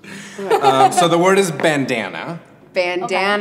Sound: chuckles; laughs

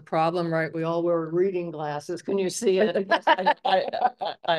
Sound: laughter

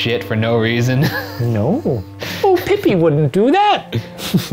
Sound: laughs; giggles

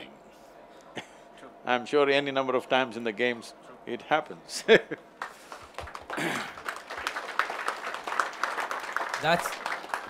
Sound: laughs/Applause

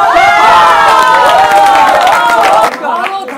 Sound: applauding automatically

